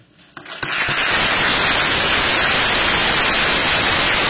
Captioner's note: applause